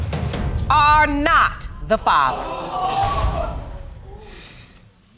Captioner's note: audience exclaiming